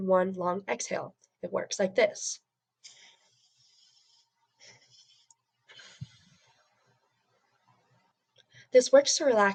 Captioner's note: deep breath in, another deep breath in, long breath out